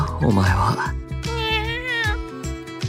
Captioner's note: meow~